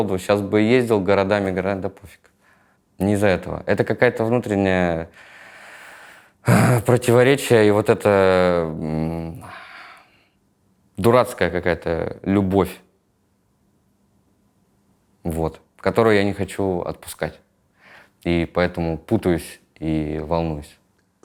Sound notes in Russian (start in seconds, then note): 6.4 вздыхает